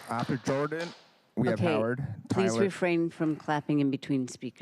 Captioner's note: applause